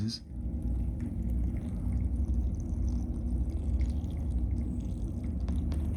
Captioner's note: Chilipad whirring; water sloshing